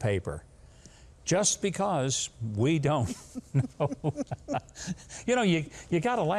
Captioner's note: both laughing